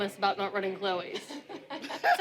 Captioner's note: laughs